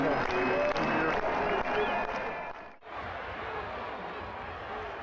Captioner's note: crowd chanting